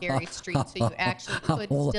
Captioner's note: laughs